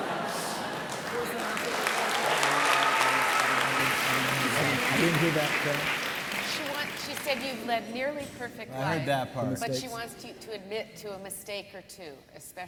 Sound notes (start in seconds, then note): 1.7 audience applauding; 5.0 panel murmurs